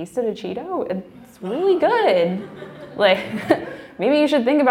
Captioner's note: laughing